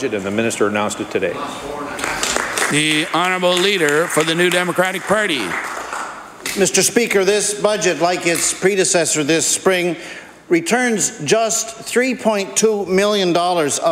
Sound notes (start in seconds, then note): 6.4 applause